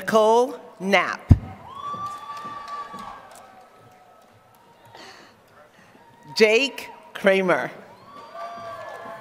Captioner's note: applause; applause